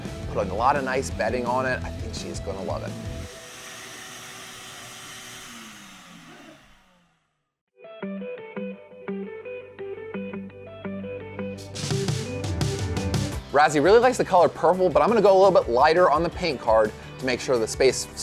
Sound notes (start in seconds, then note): 2.6 vacuum whirring; 8.1 upbeat music